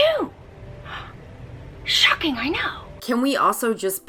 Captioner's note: gasps softly